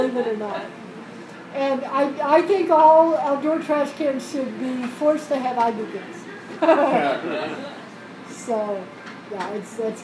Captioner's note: laugh